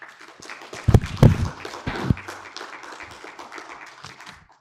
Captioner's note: audience applauding